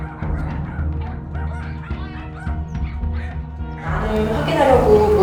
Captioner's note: the door opened